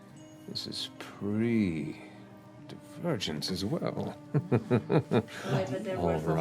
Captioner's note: chuckles